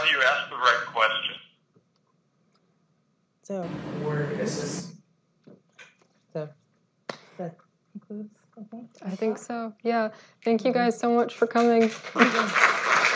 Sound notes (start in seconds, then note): 0.0 man's voice over phone; 3.6 speaker noises